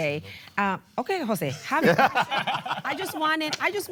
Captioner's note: laughter